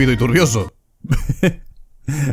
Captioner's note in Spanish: Risas